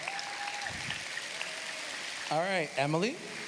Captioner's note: cheers, applause